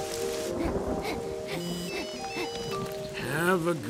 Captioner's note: message chimes